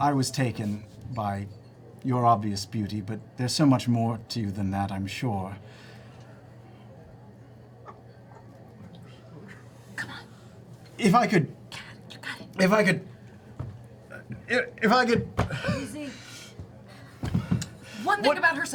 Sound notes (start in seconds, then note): 6.8 whispers